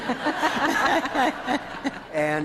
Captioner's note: all laughing